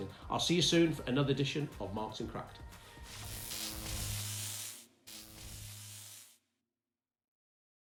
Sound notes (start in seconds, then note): 3.0 electric Buzz